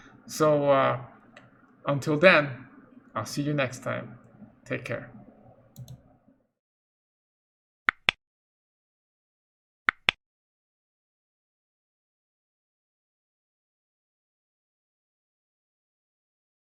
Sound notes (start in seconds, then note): 7.9 click